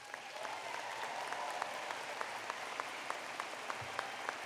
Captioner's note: applause